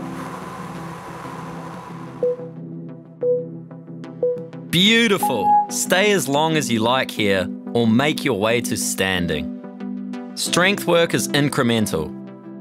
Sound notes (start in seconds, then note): 2.1 timer beeping